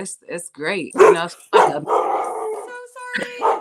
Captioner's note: dog barking